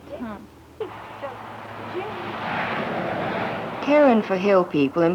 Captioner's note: vehicle passing